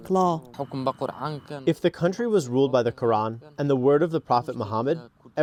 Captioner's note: through translator